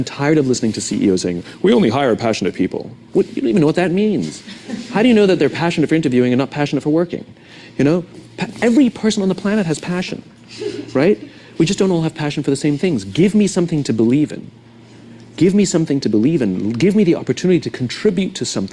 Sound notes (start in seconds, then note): 4.3 laughs